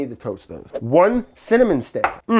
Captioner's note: bottle clacks